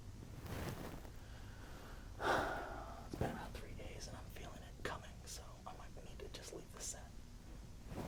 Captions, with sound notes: (sighs) It's been about three days and I'm feeling it coming. So I might need to just leave the set.